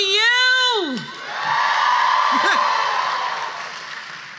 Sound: cheers

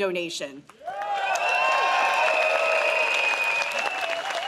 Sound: crowd cheers

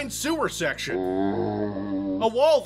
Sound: zombie sound

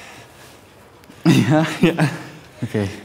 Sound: both chuckle; speaking foreign language

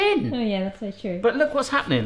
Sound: laughs

